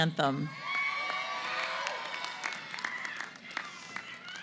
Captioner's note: cheering & Applause